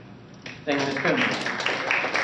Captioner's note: applause